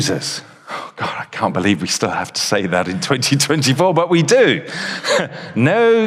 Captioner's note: chuckles